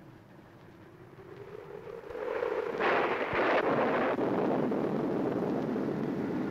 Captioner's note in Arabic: هدير الريح; صوت الرعد